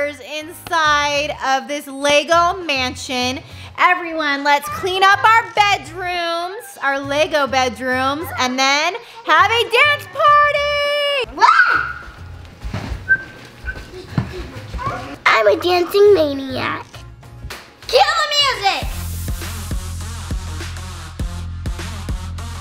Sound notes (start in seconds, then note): 11.3 children scurrying; 18.5 electronic dance music